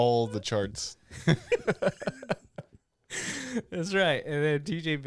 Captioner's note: laughing